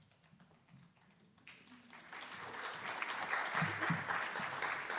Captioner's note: attendees applauding